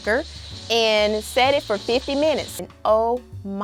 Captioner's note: pressure cooker hissing